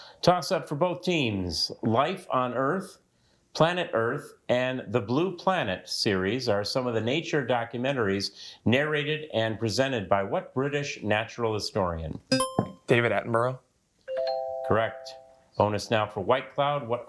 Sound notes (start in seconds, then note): 12.3 buzzer beeps; 14.1 bell dings